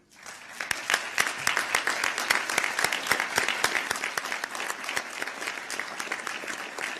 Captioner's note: applause